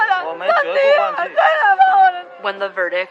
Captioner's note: crying, shouting